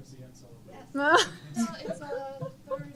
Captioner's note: laughter